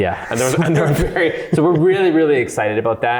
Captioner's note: both chuckle